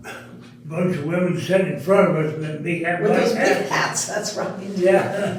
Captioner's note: laughing